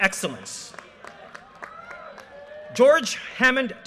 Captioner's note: audience cheers and applause